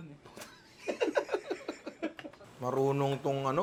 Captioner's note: laughs